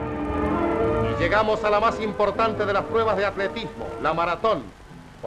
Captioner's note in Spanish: Voz en off